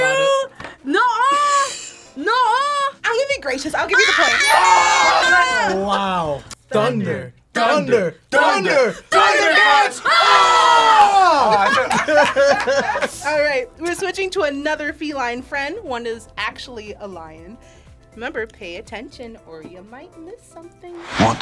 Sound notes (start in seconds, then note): 11.2 group laughs